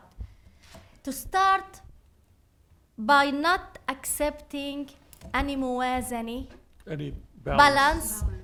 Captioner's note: speaking arabic